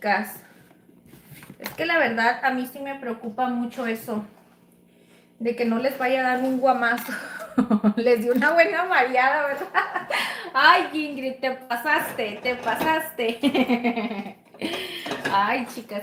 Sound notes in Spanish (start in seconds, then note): 9.5 risas